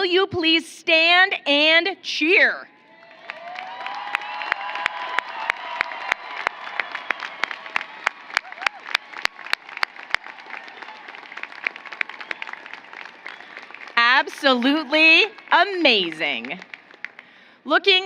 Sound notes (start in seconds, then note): 8.1 applause